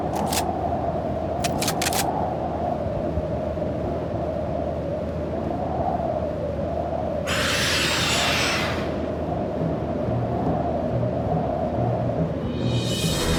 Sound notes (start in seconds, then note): 1.4 gun clicking; 7.3 beast shrieks; 9.6 dramatic orchestral music